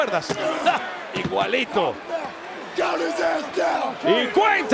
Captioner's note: laugh